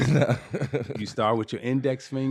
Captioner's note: laughing